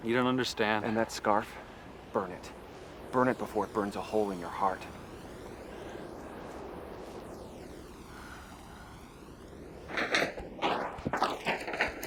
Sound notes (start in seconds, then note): 5.3 wind rushing; 8.0 exhaling; 10.6 rustling